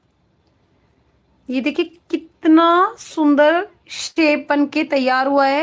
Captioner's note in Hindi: नाक से की जाने वाली आवाज़